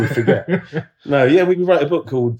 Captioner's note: laughs